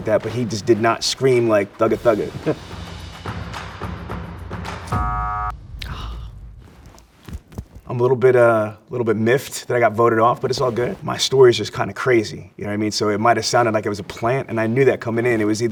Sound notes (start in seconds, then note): 2.2 upbeat music; 4.9 buzzer buzzes